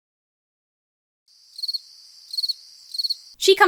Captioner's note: crickets chirping